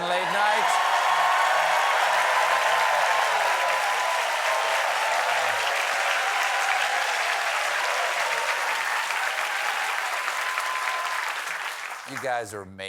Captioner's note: cheers and applause